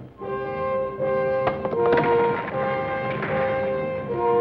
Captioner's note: rock clacks